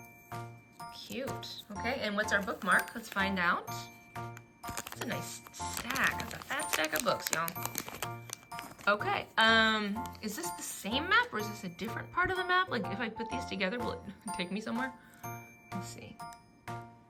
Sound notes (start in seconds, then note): 14.5 laughs